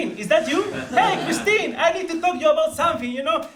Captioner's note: laugh